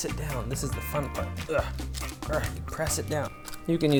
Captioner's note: grunting